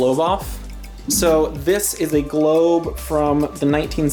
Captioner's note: chiming